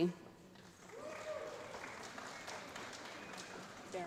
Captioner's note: applause